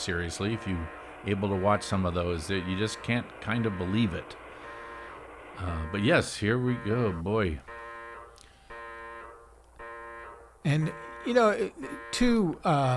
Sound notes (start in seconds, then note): 7.7 alarm blaring